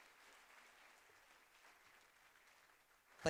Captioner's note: applause